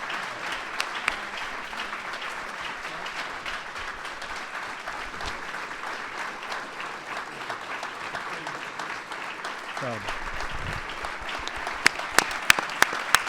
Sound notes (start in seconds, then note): 4.6 applause